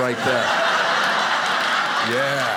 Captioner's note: audience applauding